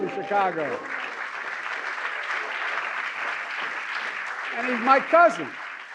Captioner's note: applause